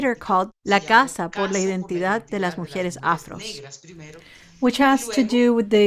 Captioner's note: speaking foreign language